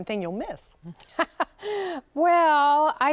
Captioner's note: laughter